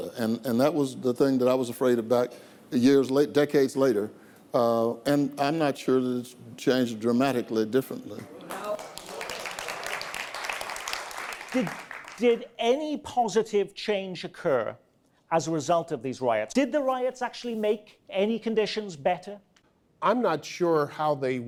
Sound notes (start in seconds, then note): 10.9 audience applause